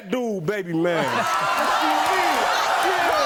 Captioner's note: audience cheering